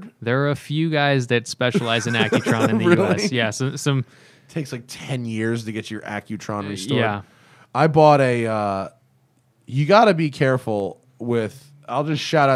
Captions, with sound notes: >>:There are a few guys that specialize in Accutron in the U.S. >>:(Laughter) Really? >>:Yes, some... >>:It takes, like, 10 years to get your Accutron restored. >>:Yeah. >>:I bought a - you got to be careful with - I'll just shout